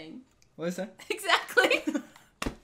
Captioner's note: laughing